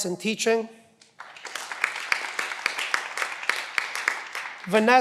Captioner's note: cheering